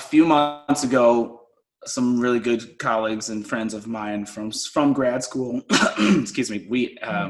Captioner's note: coughs